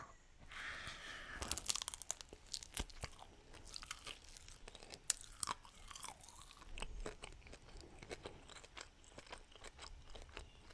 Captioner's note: eating sounds now